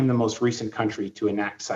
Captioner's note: speaking French